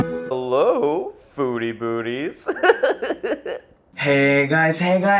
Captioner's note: video game music; laughing